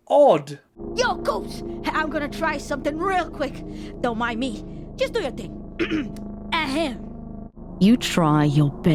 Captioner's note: clears throat